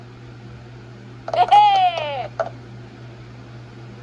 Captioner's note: Maria cheers